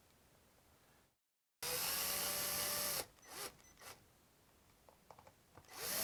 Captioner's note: screw driver whirling